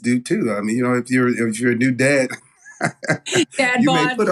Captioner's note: laugh